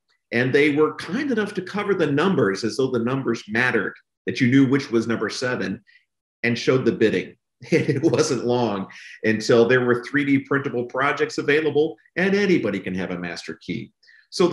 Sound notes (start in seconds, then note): 7.6 laughs